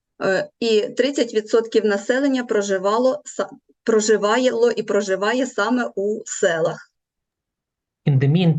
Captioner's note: foreign Language